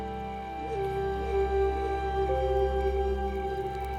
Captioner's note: howling